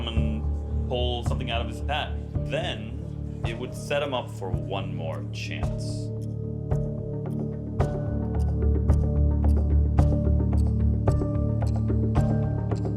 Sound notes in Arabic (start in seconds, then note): 6.2 دقات ساعة الشطرنج; 6.2 موسيقى حماسية